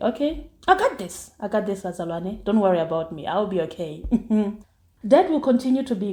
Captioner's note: giggles